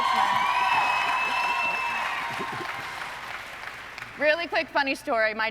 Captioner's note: audience cheering